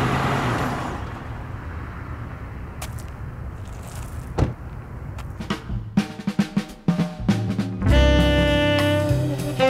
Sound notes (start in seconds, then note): 1.0 wind blowing; 2.5 gravel crunching; 4.3 door thumping; 5.5 upbeat jazz music